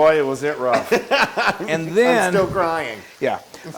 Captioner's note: laugh